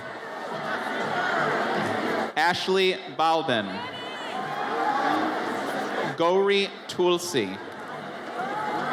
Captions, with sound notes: (audience chatters) Ashley Balbin. Gory Tulsey.